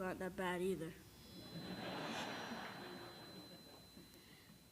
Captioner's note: laughter